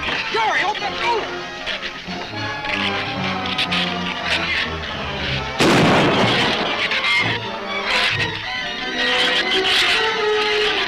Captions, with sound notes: - Jerry, open the door! (shrews chatter) (gun fires) (shrews chatter)